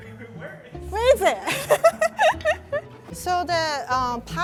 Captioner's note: laughing